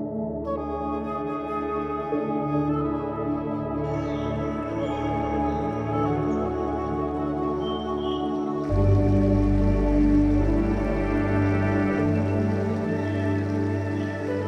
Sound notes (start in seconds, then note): 3.8 birds singing; 8.7 river trickling